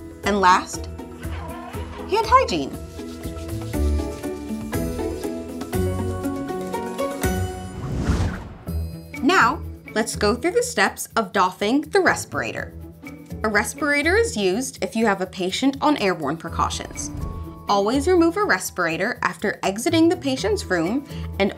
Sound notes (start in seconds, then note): 0.7 dispenser screeches; 4.9 calm quirky music continues; 7.6 air whooshes